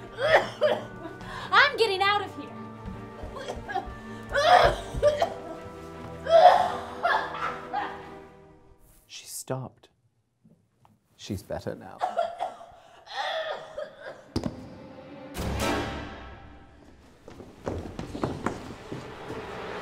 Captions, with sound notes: *coughs* I'm getting out of here! *coughing violently* She stopped. She's better now. *more coughs* *thud*